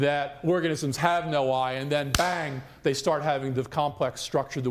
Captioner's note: claps hands